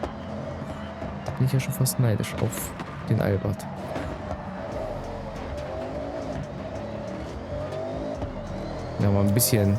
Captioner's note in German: stöhnen